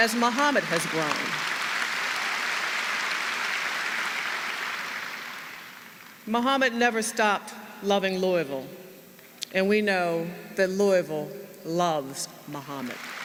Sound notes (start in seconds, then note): 6.2 applause